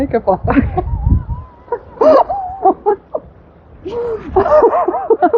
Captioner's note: laughing